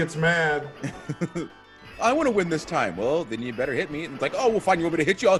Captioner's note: laugh